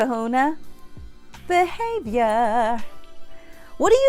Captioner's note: in a singing voice